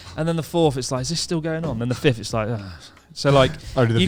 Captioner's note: groans